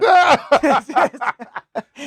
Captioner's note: laughing